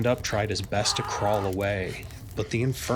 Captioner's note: soldiers screaming